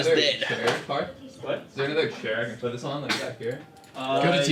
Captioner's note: teammates chattering